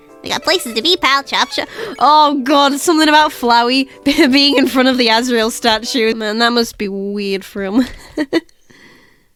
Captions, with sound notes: "We got places to be, pal! Chop chop!" Oh god, something about Flowey being in front of the Asriel statue... That must be weird for him... (laughs)